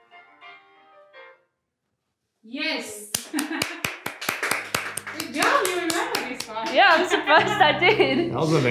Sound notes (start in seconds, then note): 3.1 clapping; 6.5 instructor giggles